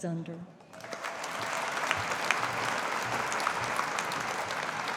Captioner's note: audience applauding